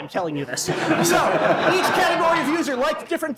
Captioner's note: laughter